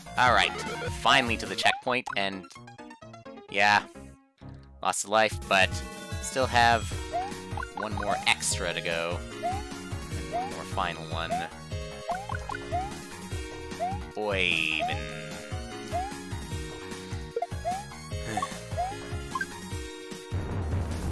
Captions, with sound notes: Alright. Finally to the checkpoint, and... ...yeah. I lost a life, but... ...I still have...one more extra to go. One more final one. Oy ve- Nngh. (*sigh*)